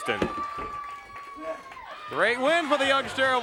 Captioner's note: crowd cheering